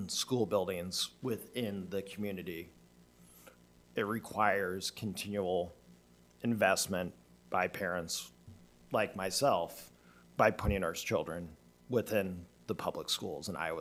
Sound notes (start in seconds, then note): none